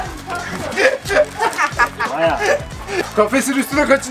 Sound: laughter

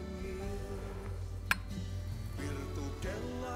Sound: clinking of glasses

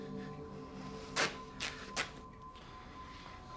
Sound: fabric ripping

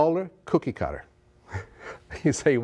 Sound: laughs

